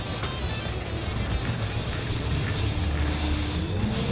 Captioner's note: reel winding